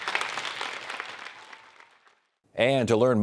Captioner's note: campers clapping